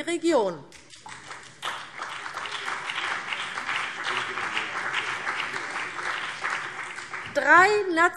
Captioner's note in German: Beifall CDU und BÜNDNIS 90/DIE GRÜNEN